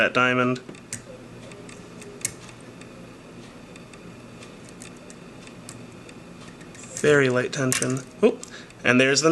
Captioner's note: click